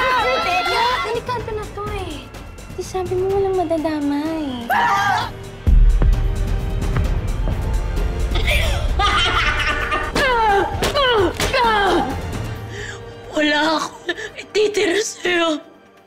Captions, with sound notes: This is getting dangerous! Innocent people are getting hurt. [diabolical laughing] [grunting] I will take everything from you.